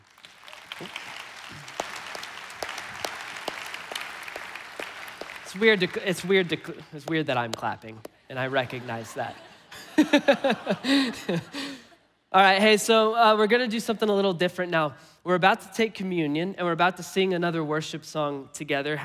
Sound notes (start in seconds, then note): 0.0 congregation applauding; 0.1 clapping; 8.5 congregation laughing; 8.7 laughing